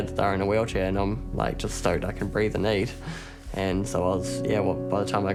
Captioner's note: chuckles